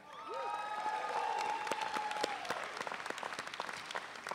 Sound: audience cheering

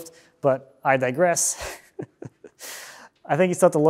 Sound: chuckling

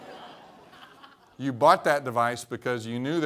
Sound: laughter

